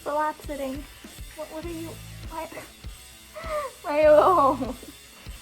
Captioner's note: laugh